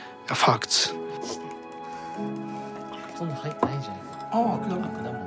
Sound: all speaking Japanese

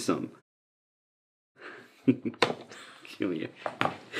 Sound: laughs

